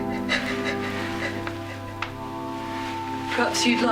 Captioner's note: continued crying